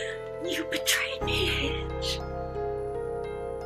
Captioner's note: sobs